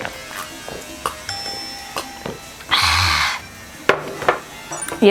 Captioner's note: ah... construction noise outside lol